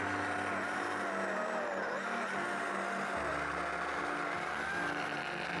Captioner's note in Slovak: Potlesk